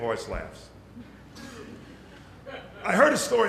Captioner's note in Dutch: licht gelach